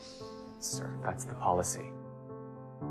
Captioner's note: voiceover